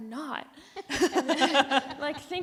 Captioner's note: panelists laugh